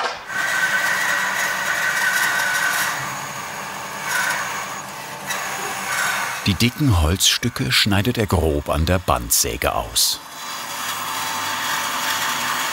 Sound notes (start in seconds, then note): 1.3 sound of cutting